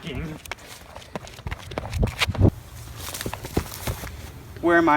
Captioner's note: running footsteps